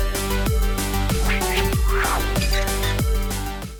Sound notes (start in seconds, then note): 1.0 whooshing; 1.5 creaking